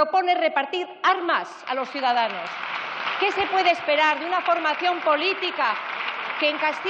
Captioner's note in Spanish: Protestas.-Aplausos